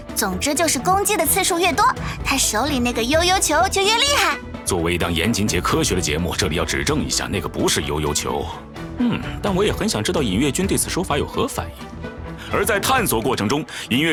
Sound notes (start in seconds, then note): 4.7 sigh